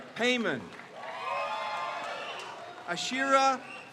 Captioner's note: crowd cheers